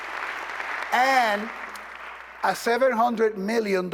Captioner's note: applause